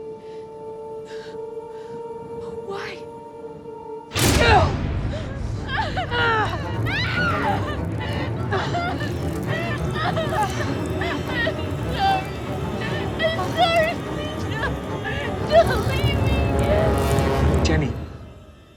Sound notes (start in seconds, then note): 3.1 musique tendue; 4.9 sanglotant hystérique